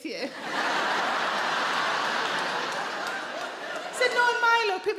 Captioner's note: audience laughing